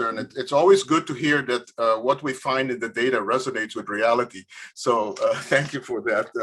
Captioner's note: laughs